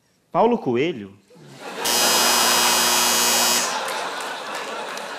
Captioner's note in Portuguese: campainha